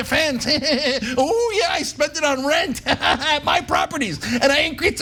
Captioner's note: laugh